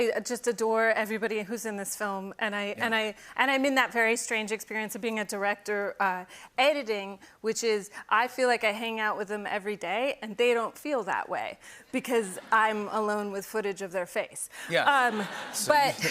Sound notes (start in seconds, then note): 11.6 laughter; 14.8 laughter